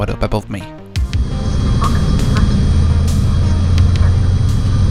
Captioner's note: airplane whooshing